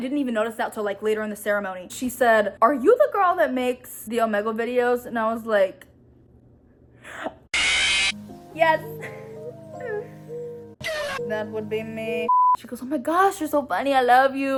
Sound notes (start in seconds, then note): 7.6 five nights at freddy scream sound effect; 11.7 get out sound effect